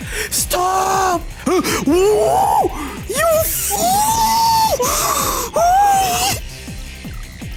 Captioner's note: sounds of slowly losing his mind